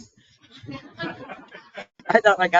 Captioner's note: people laughing